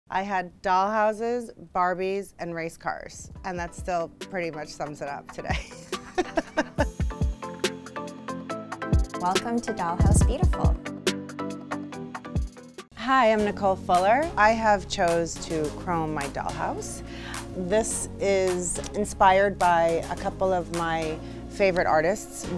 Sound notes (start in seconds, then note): 5.6 laughs; 7.1 upbeat music